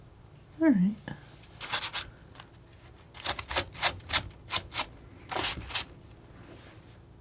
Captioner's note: scratching